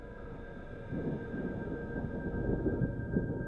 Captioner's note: thunder rumbling